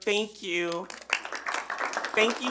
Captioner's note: attendees clap